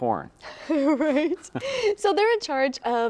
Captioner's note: laughs